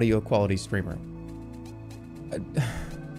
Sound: sighs

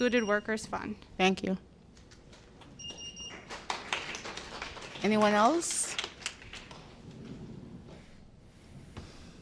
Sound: applause

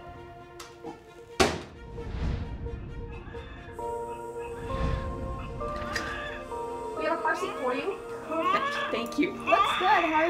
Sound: baby crying

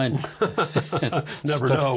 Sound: both laughing

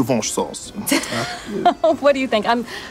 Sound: chuckling

